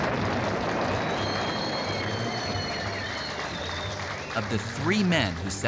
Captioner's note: applause and whistling